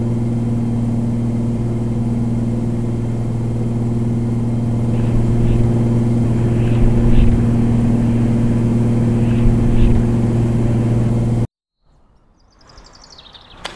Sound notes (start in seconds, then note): 4.6 wind howling